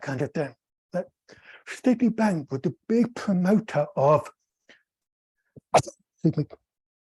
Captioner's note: sneezes